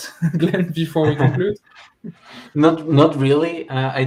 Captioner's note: laughter